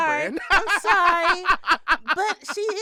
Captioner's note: laughter